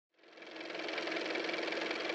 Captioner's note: car motor